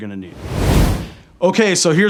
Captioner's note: air whooshing